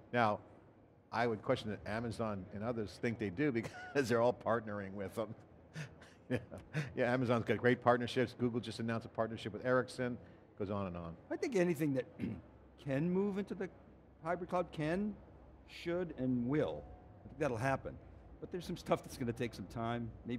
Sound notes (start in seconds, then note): 5.8 chuckles; 12.1 clear throat